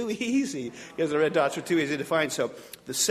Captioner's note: audience laughing